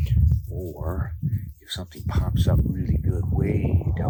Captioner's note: wind moving